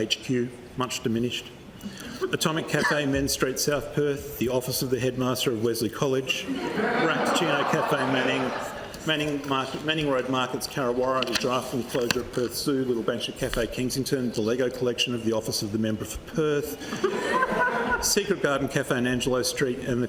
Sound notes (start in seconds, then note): 6.4 laughter; 16.8 laughter